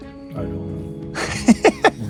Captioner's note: laughs